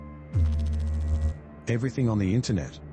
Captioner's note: electrical noise